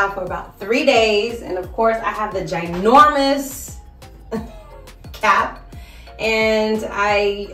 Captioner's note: chuckles